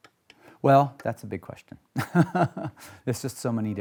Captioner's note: laughs